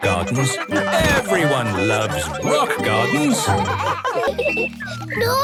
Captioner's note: laughter